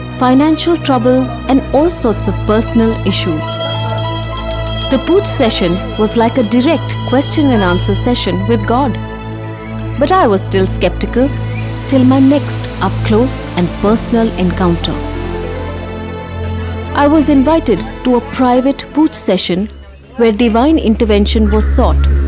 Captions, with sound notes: financial troubles and all sorts of personal issues. (soft music) (bell chimes) The pooch session was like a direct question and answer session with God! (soft music) But I was still sceptical, till my next up close and personal encounter. (soft music) I was invited to a private pooch session where divine intervention was sought